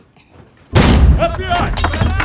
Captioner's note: door crashes